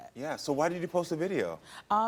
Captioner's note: none